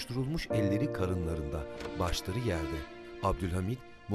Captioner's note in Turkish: Kapı açılma sesi